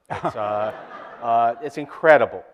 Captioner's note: audience laughter